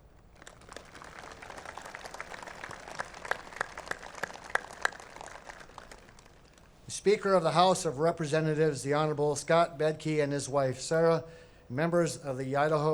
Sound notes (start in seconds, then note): 4.5 applause